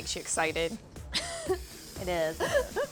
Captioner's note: laughs